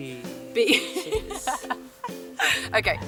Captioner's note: laughs